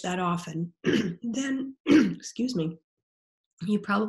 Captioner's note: clearing throat